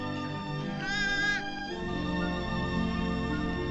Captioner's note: bleating